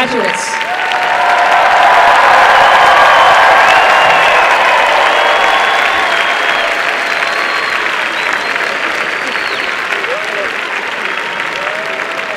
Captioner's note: applause and cheering